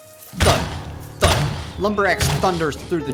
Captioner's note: footsteps thudding